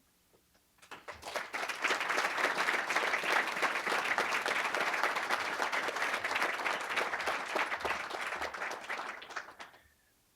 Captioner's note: applause